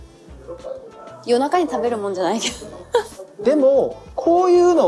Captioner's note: laughs